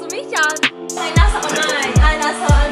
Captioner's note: giggles